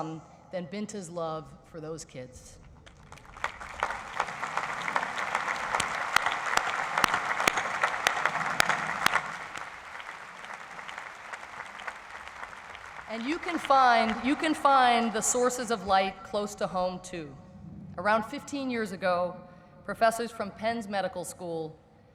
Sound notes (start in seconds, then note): 2.8 audience applauds